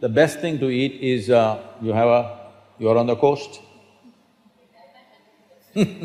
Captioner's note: laughter